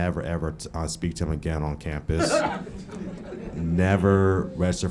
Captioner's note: laughing